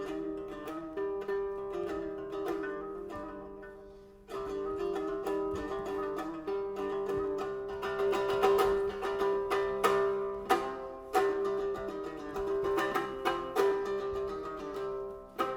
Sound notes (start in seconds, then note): none